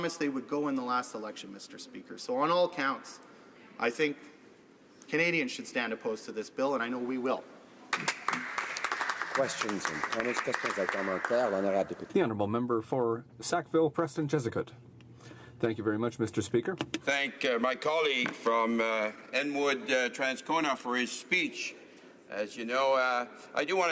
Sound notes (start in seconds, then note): 12.8 some Applause; 15.8 speaking French